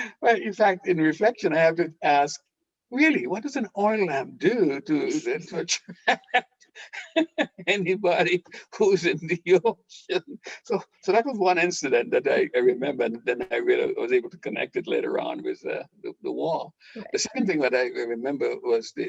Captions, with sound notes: [laughing] In fact, on reflection, I have to ask, really, what does an oil lamp do to influence [laughing] anybody who’s in the ocean? So that was one incident that I remember and then I was able to connect it later on with the war. The second thing that I remember was the...